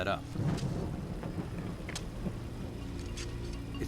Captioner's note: thunder continues